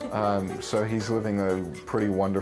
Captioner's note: person laughs